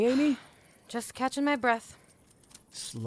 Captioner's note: sighs